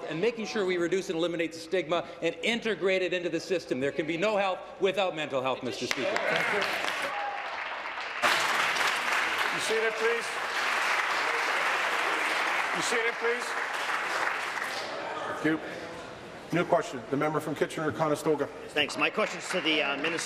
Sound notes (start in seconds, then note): 11.0 applause